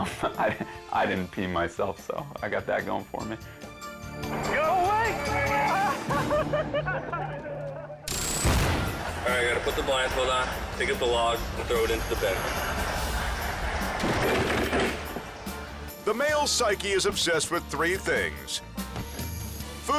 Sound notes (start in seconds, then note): 5.5 friends laughing; 8.2 countdown squeals; 14.0 log thuds